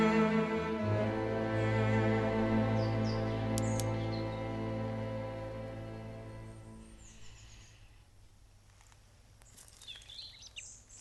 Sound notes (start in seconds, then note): 3.0 tapping sound; 9.4 birds singing